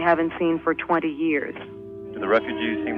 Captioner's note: archival news audio